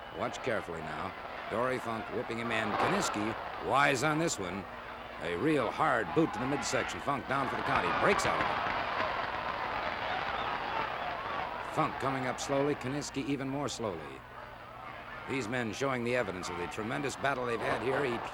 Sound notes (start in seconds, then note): 9.8 crowd chattering